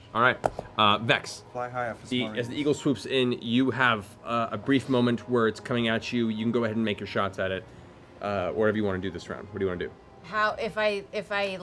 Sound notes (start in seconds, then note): none